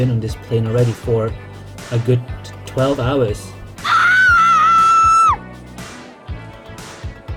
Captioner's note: scream